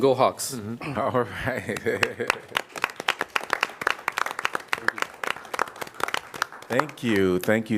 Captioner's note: applause